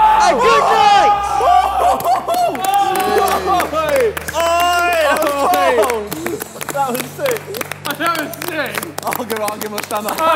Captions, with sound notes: And goodnight! (clapping) - That was sick